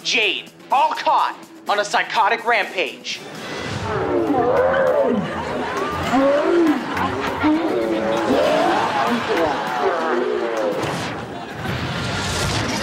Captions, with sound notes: all caught on a psychotic rampage. [distorted talking]